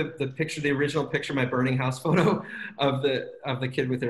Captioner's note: laughs